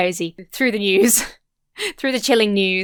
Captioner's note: chuckles